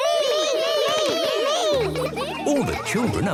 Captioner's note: all calling out